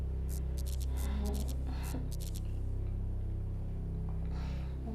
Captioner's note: electricity buzzes